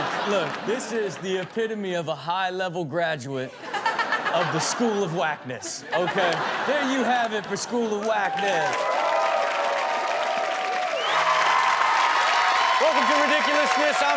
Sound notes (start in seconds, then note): 3.5 Chanel and audience laughing; 8.0 audience applauding; 11.5 adience applauding